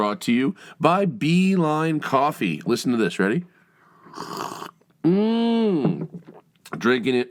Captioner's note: sips coffee